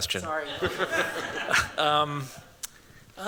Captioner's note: chuckles